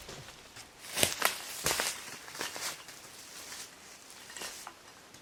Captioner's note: brush crackling